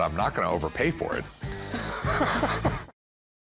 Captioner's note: laughs